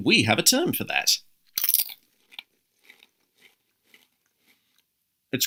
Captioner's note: Crunch